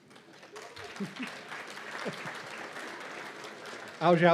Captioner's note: applause